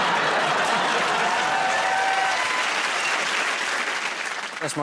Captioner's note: laughter